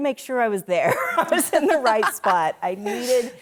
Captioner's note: laughs loudly